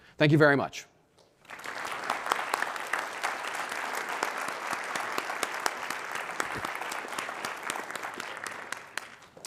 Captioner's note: applause